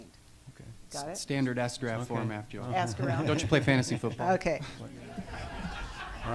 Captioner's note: audience laughs